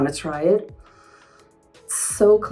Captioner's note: Helena inhaling